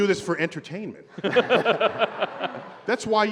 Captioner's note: laughter